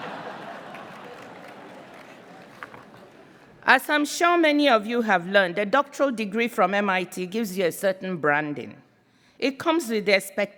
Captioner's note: laughter